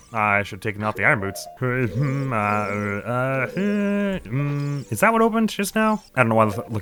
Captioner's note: indecisive noises